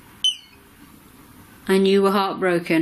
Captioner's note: beep